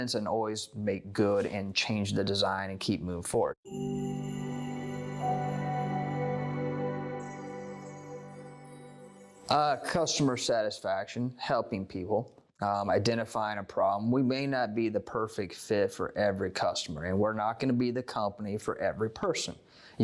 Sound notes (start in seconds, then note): 3.6 chime Sound